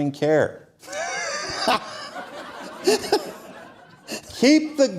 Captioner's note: laughter